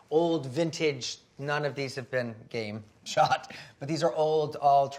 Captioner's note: laughs